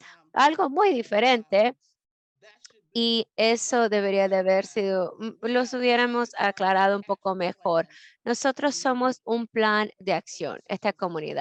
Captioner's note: Spanish